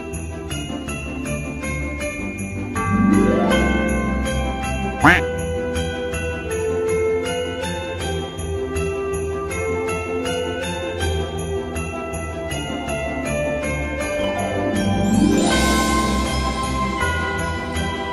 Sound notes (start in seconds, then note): 5.0 quack